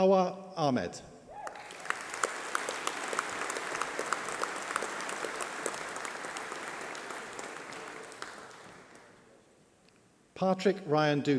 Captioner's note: applause